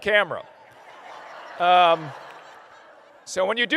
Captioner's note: laughter